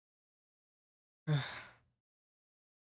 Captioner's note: sighs